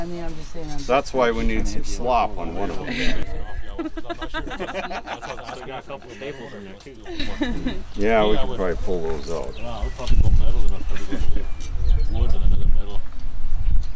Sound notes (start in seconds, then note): 2.6 laughter